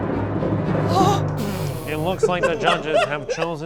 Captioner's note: gasping